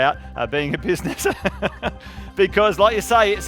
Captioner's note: laughing